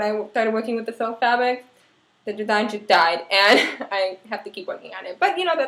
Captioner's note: laugh